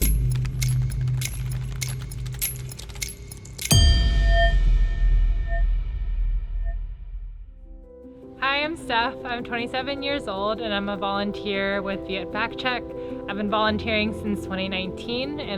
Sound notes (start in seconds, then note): 0.3 dramatic music; 4.0 bell echoing